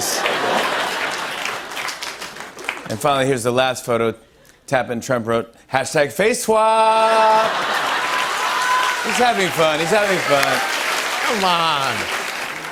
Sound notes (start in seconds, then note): 0.0 laughter; 7.0 laughter, applause